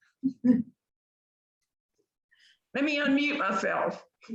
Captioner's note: chuckling